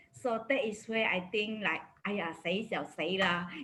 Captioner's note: speaks foreign language